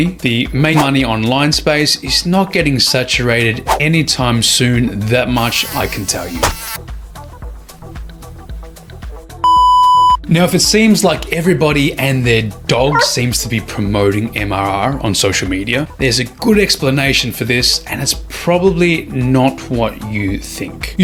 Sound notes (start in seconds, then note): 7.8 annoying mosquito